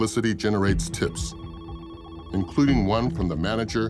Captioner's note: phone ringing